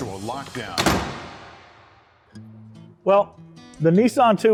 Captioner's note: door slamming